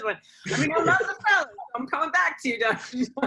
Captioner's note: laughter